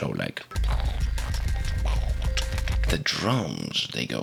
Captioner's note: scary noises